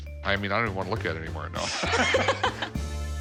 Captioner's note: both laugh